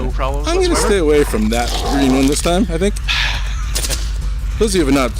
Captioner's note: laughs